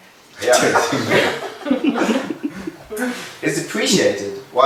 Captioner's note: cheerful laughing